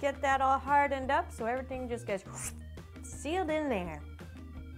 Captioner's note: whoosh